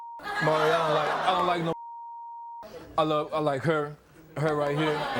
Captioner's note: beep